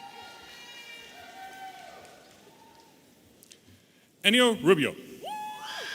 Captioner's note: audience applauding and cheering